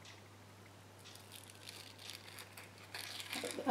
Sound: scooping sound

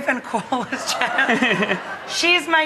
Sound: laughs

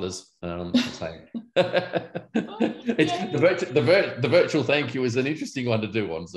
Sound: laughs

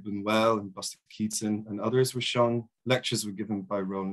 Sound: murmurs

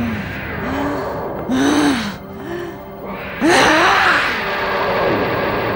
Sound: grunts

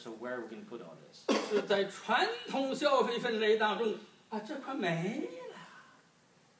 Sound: speaking foreign language

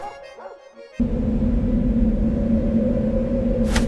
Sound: calm music stops / low wind sounds begins

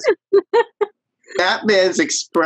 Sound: all laughing

